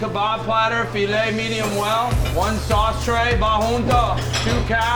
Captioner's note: speaks in Spanish